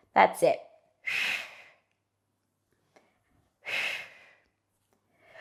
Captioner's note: breathing sharply